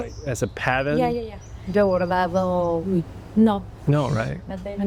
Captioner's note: and translator speaking spanish